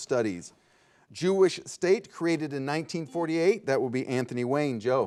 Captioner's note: soft buzzing